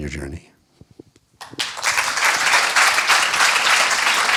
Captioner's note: applause